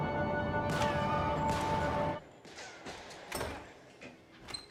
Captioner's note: gunfire banging; door clicks